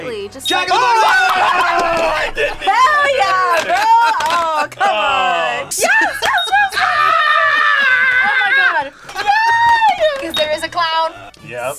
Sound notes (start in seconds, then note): 0.8 laughs; 5.9 screams